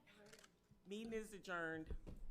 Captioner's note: camera shutter clicks